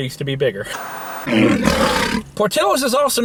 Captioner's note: lion roaring